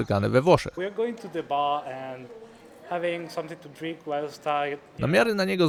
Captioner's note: voices in English